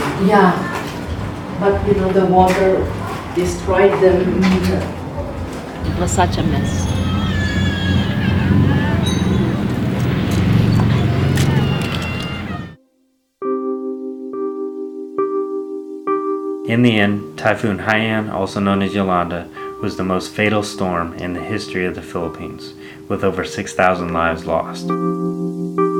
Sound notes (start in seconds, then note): 7.7 children wailing; 13.5 pensive music